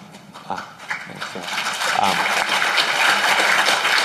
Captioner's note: applause